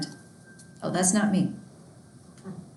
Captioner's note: dinging